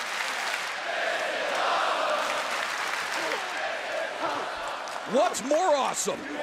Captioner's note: crowd cheering